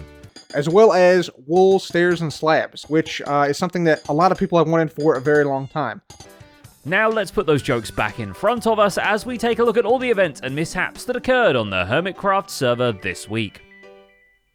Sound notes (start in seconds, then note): none